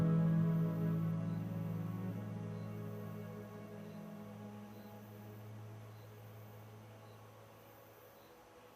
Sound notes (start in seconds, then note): 3.7 insects chirping